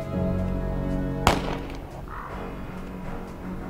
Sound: gunshot

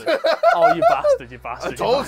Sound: laughs

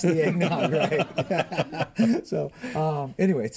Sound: laughter

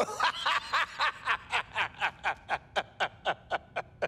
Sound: laughing

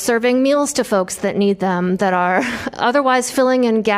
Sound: laughter

